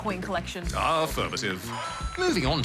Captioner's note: ba-ding!